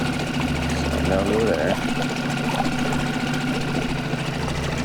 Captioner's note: speaking softly